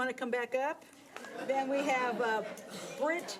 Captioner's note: audience laughs